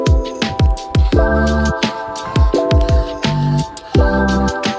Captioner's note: aerosol sounds